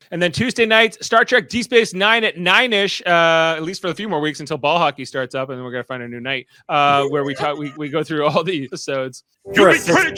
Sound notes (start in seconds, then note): none